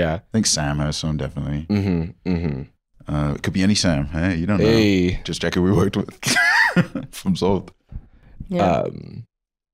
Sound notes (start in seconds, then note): 6.2 laughs